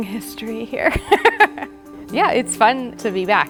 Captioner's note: laughing